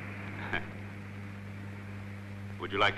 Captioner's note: chuckling